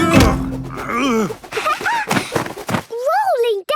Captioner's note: laughing